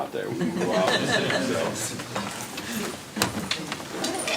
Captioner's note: laughter